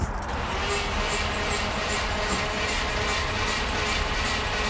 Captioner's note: engine sputters